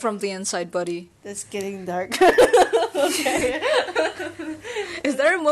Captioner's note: blehehehehehe